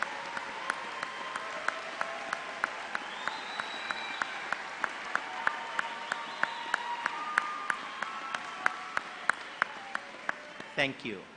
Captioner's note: applause